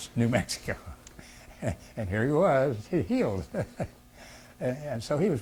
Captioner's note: laughs